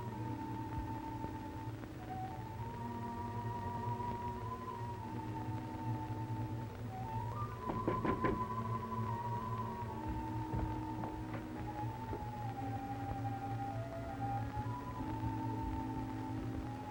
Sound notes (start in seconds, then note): 7.6 knocking on door; 9.1 dramatic music